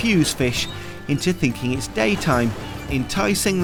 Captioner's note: gulls squawking